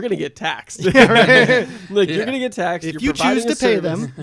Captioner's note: laughter